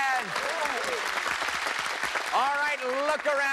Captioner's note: cheers and applause